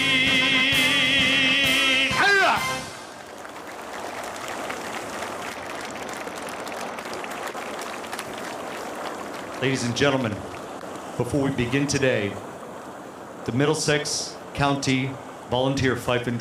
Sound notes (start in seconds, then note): 5.3 applause